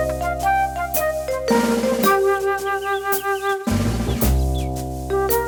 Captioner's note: next day morning with birds chirping